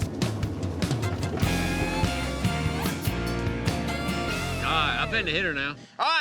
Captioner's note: tractor engine revs